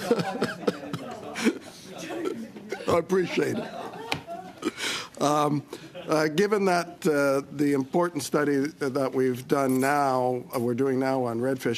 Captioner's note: laughter